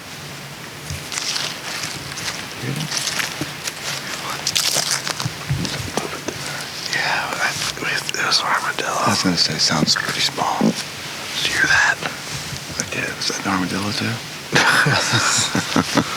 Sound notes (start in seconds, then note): 6.8 whispers; 11.7 whispers; 14.5 chuckles